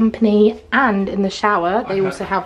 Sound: laughing

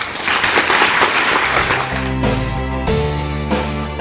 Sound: audience applause

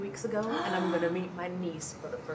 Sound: woman gasps

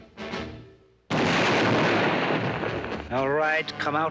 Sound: explosion

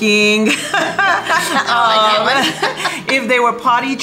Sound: laughing

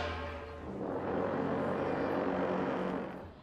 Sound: horns blowing

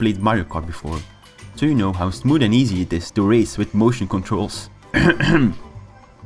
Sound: cough cough

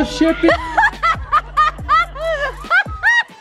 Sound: laughing

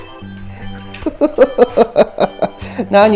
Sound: laughs

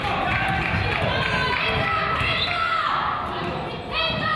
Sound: crowd applauds

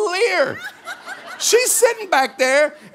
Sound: congregation laughing

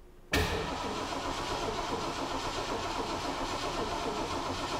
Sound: engine revving

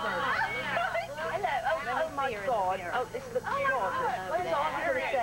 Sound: English accent

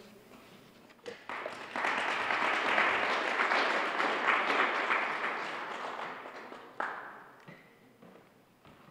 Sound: applause

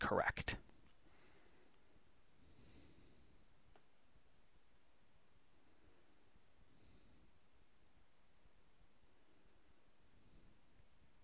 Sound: pause in speaking

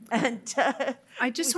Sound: laughing

